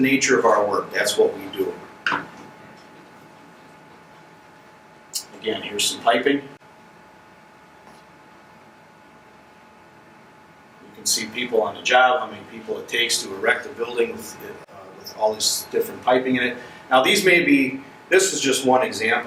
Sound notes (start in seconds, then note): 6.6 silence